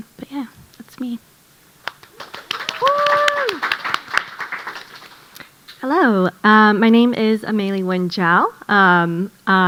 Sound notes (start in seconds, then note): 1.8 audience applauding